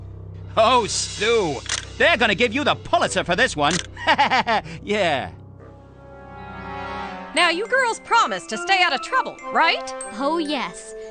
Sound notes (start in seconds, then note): 3.9 laughter